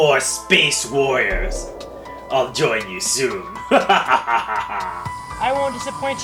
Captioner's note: laughs